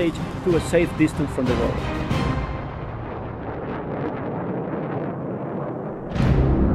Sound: music crescendos and ends; thunderous rockets echo; music-final orchestra hit over dark drone; wind in background

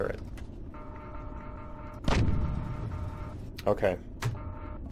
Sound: turret turning; turret firing

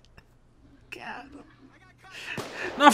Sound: chuckles; whisper

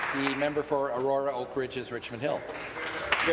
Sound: applause

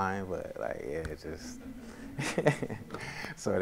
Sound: laughs; audience laughs

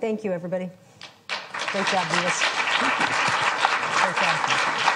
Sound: crowd applauds

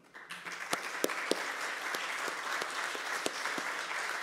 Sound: group clapping

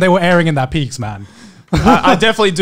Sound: chuckles

